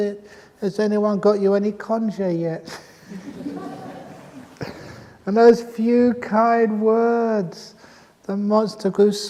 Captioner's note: laughter